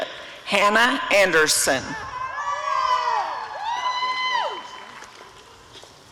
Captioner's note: applause and cheering